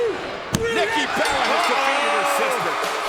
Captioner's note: bell ringing